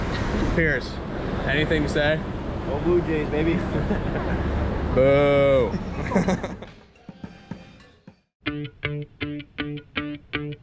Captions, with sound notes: Pierce, anything to say? - Go Blue Jays, baby. (laughs) - Boo! (laughs)